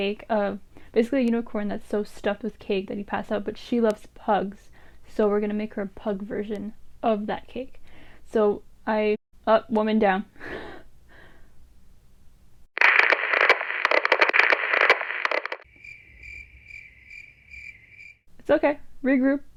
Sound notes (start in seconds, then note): 12.7 TV static; 15.6 crikets